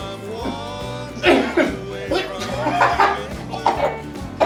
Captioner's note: Jake coughing